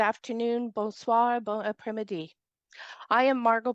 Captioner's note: non-english speech